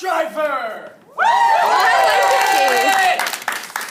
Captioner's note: cheering